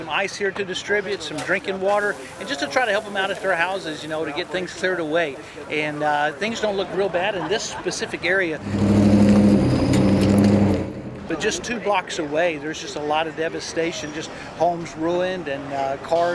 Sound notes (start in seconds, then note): 8.5 truck rumbling